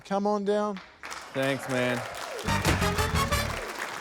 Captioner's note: applause